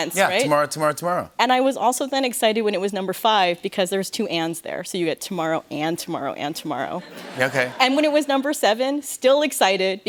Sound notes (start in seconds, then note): 6.6 light laughter